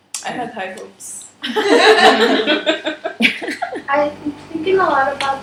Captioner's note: laughter